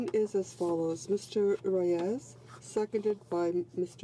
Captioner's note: speaking french